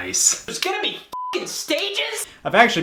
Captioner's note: beep